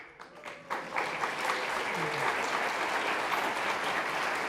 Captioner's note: audience applauding